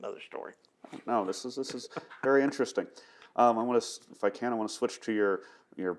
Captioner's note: laughs